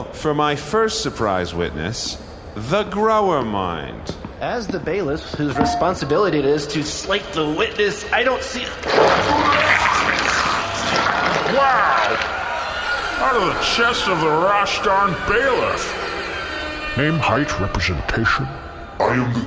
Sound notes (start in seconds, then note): 11.7 the bailiff rasps, sound of tearing flesh; 12.8 laser sound effects; 15.7 airhorn sounds; 18.6 deep, menacing voice